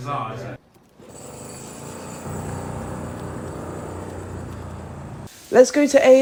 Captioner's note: building sounds